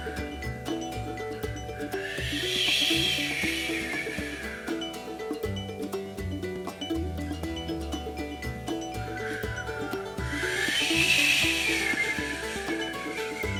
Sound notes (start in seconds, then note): 2.0 wind blows; 10.0 wind blows harder